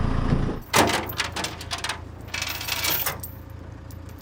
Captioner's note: chains clinking